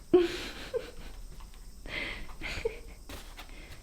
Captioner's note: giggles